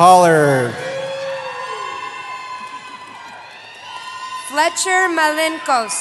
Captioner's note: cheering